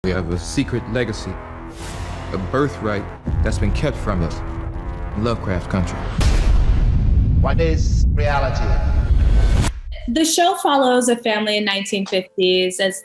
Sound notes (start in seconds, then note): 6.1 boom